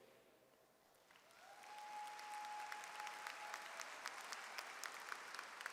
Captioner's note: audience cheers and applauds